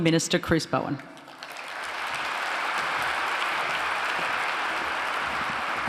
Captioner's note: applause